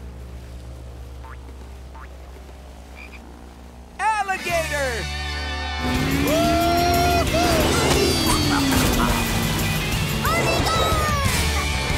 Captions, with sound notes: Alligator! [cheering] Gormy, gorm!